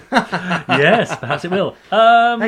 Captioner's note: laughing